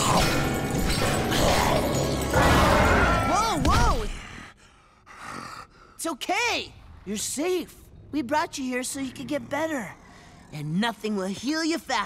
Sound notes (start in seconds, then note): 0.8 growling